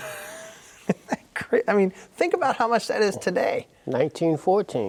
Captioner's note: laughs